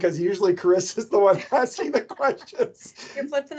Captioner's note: both laugh